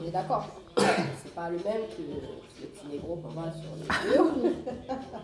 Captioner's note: laughs